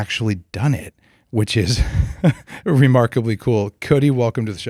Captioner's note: laughs